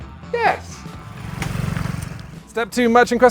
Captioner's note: engine rumbling